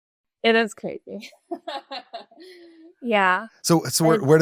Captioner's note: laughs